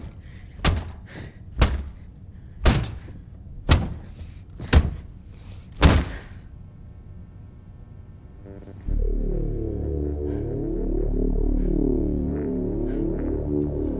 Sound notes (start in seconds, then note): 1.5 sounds of head being slammed repeatedly; 8.4 ominous music